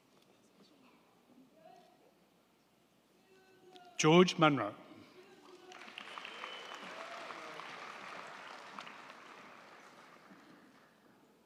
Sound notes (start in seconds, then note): 5.4 crowd clapping; 5.5 crowd cheering